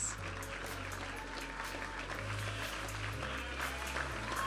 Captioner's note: audience applauding and cheering; vibrant music